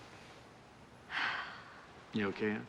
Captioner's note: sighs